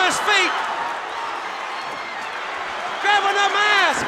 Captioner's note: crowd cheering